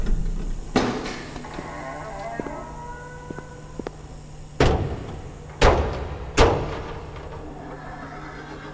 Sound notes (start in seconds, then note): 0.0 electrical buzzing